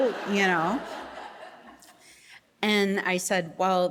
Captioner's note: audience laughing